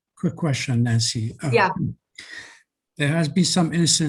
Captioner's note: male Voice